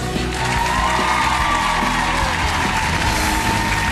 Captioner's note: applause